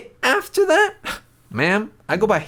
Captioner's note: scoffs